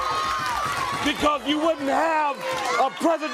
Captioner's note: crowd cheering